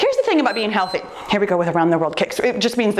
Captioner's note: timer beeps